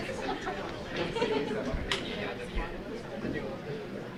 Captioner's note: light chattering